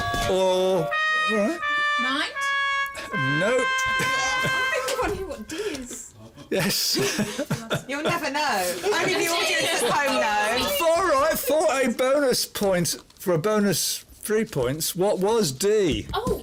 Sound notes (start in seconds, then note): 0.7 loser's sad trumpet; 3.9 chuckles